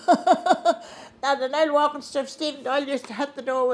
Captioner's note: laughing